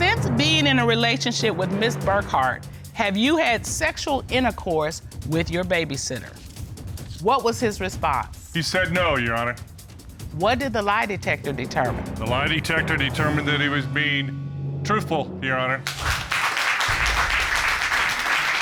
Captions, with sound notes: "Since being in a relationship with Ms. Burkhart, have you had sexual intercourse with your babysitter?" -What was his response? -He said, "No," Your Honor. What did the lie detector determine? The lie detector determined that he was being -truthful, Your Honor. -[audience applauds]